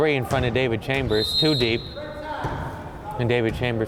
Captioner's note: whistle